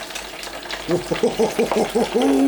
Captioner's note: oil sizzling